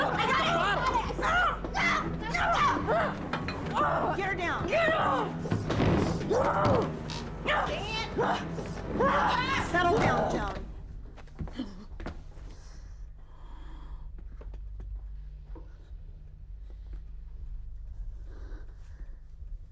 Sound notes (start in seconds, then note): 3.7 Joan grunting; 8.6 Joan grunting